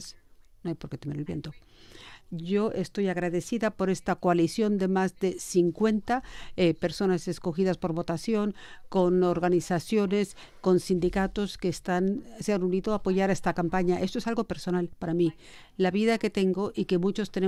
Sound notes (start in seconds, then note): 1.3 speaking spanish